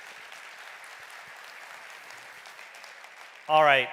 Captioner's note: audience clapping